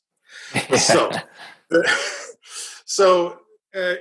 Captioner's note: laughs